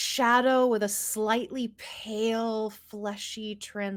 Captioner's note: none